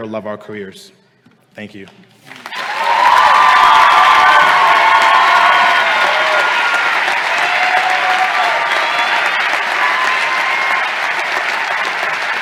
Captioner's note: appluase